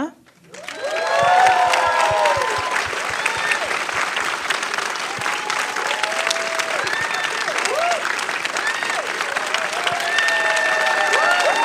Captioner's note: applause